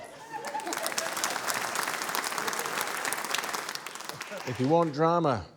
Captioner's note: cheering, applause